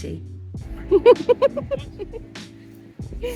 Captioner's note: laughing